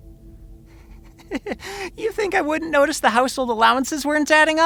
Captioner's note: chuckling